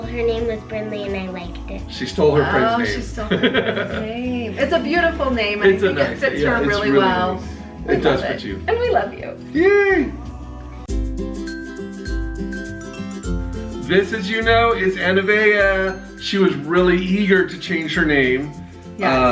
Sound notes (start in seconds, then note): 3.2 laughs; 10.9 jaunty xylophone music